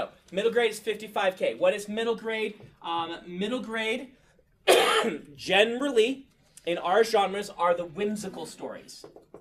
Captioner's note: coughs